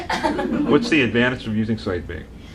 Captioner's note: laughing